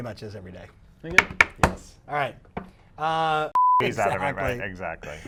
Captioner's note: banging; beep